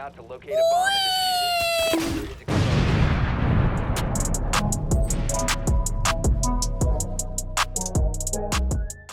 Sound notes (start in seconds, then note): 0.6 wee sound effect; 1.7 bonk sound effect; 1.8 explosion sound effect